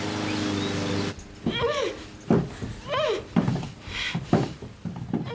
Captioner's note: distant muffled yelling; lawnmower engine roaring; grunting